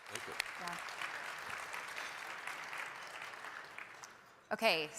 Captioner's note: audience clapping